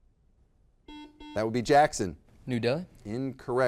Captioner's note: buzzer beeps